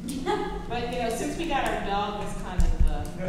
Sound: laughs

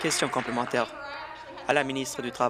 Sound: applause

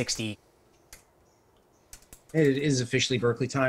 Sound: keyboard sounds

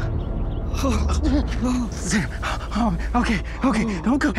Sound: groaning

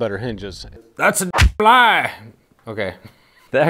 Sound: fist punching

